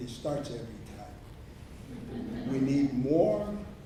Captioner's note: audience laughs